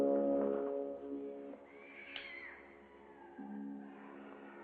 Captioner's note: distant wailing noises